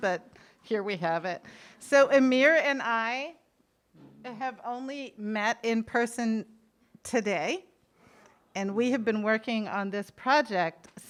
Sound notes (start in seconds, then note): none